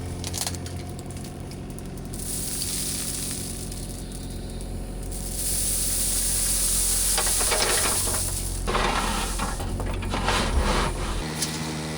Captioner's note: engine revving